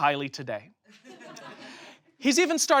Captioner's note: audience laughs